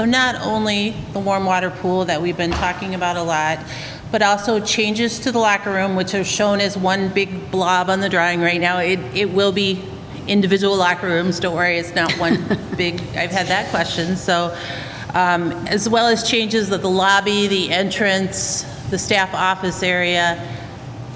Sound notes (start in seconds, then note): 12.0 laughter